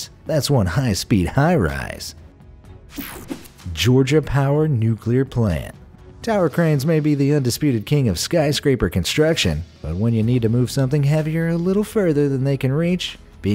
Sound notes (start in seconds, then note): 2.9 image swooshing; 3.0 image buzzing